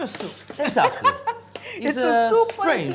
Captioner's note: laughing